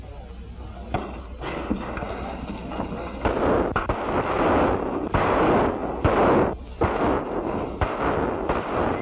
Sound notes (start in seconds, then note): 3.6 gunshots